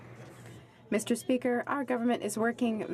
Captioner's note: speaking French